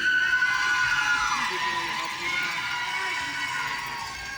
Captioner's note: audience cheering